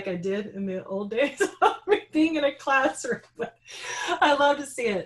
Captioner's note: laughing